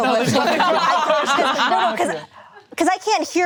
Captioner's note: group laughing